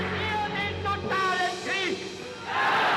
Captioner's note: speaking German